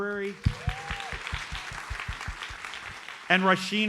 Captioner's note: audience applauds